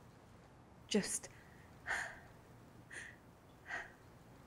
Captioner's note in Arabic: تلهث